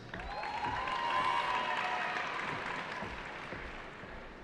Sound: cheering

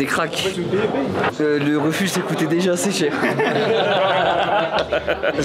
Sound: laughs

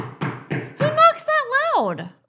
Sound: person off camera knocking

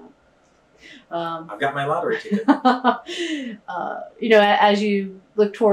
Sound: laughter

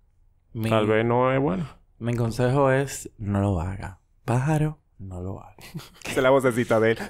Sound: laughs

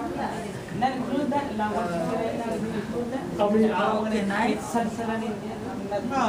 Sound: students discussing

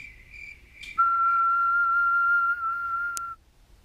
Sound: crickets chirping; whistling

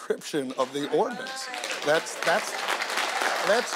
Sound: audience applauding

